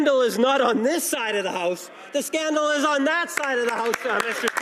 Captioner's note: some Applause